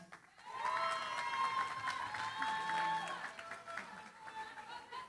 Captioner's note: cheering, applause